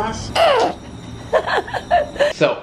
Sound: laughing

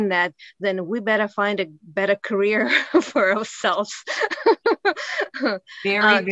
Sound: laughs

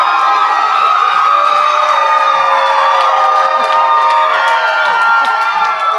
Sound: cheers and applause

